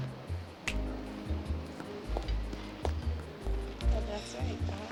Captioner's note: fingers snapping